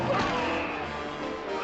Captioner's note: groaning